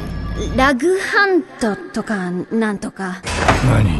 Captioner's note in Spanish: efecto de eco